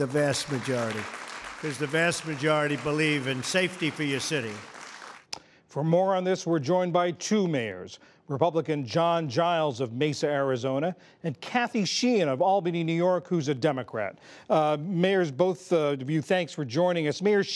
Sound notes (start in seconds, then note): 4.8 applause